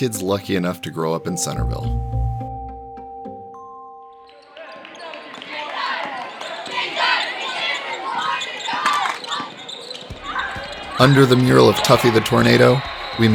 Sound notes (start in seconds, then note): 4.3 crowd noise